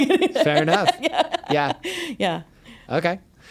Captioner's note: laughs